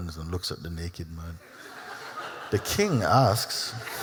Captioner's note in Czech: Smích